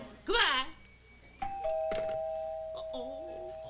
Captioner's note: doorbell